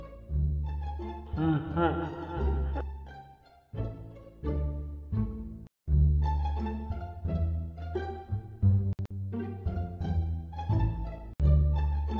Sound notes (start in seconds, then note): 1.3 Freddy laughs